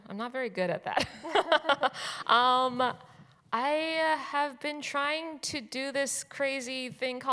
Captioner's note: chuckles